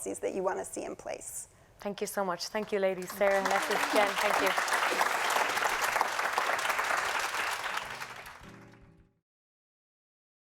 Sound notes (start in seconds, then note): 4.7 applause